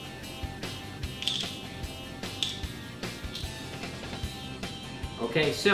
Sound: game pieces rattling

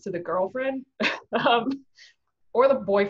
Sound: laughs

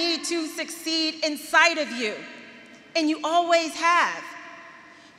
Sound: none

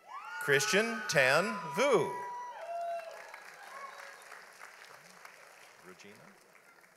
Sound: audience applauds

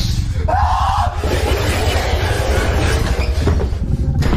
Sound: screaming

